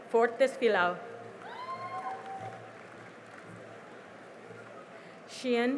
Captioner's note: cheering and applause